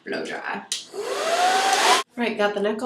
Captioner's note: blow dryer